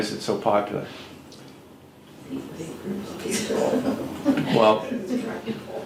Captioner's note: laughs